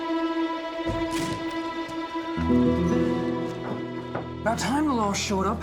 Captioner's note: door opens